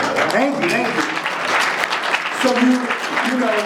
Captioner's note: audience applauds